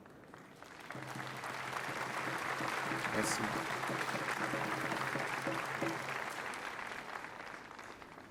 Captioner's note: applause